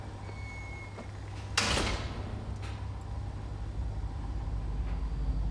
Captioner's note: hinges squeaking; gate closes